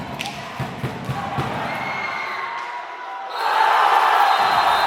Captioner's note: ambient stadium sound with goal scoring celebration sounds